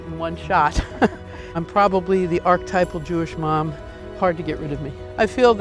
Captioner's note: laughs